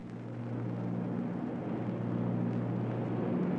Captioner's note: engine droning